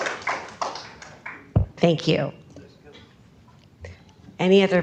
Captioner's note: applause